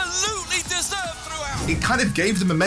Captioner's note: cheering